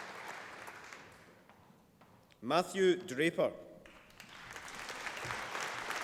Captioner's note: applause